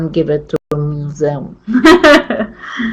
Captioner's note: chuckles